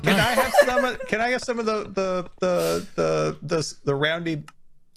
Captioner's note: group laughing; stammers